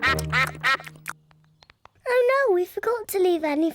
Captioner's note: ducks quack